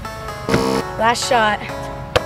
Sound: buzzing

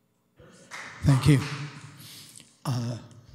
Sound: applause

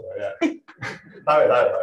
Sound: laughter

